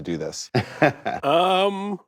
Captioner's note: laughs